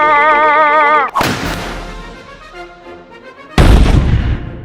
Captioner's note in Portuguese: Tiro sincronizado